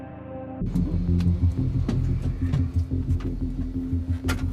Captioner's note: door opens; door closes